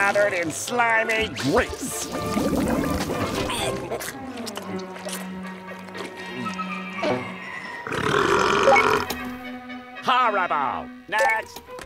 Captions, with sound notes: in slimy grease. [belching] Horrible. Next.